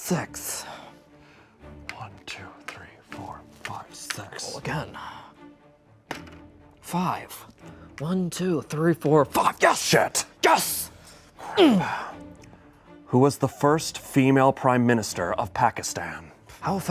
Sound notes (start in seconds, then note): 11.5 grunts